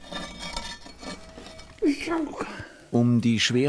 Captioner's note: strained sounds